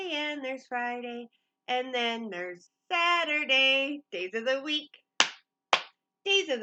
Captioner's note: clap, clap